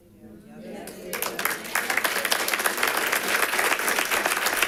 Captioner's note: audience claps